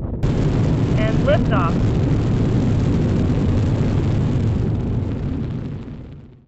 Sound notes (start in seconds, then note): 2.2 female voice